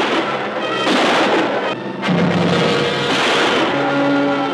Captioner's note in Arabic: إطلاق نار